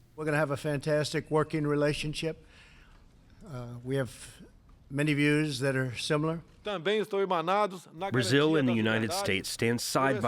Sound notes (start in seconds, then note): 7.6 through translator